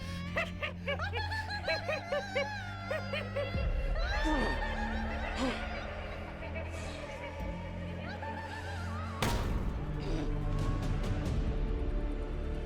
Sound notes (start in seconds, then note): 0.0 both giggling; 4.9 grunting; 9.8 dramatic music